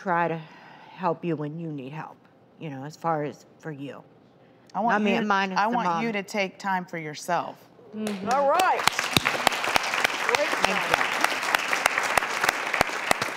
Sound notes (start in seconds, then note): 8.0 audience claps